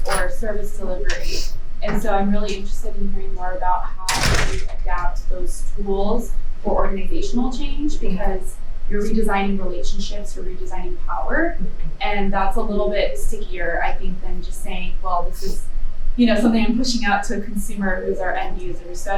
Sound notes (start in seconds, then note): 4.0 door closing